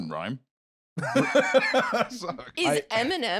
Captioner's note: laughing